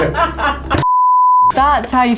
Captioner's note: laughing; beep